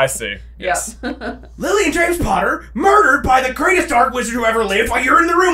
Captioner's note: accented